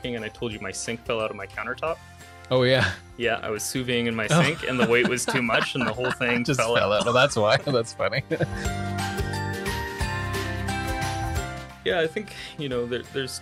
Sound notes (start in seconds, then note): 4.3 laughs; 8.8 cheerful music